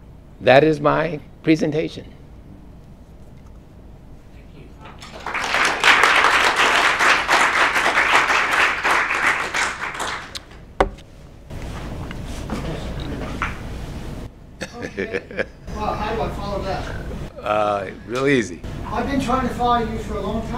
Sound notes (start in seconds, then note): 4.8 applause; 12.5 laugh